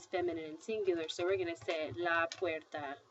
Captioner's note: speaking spanish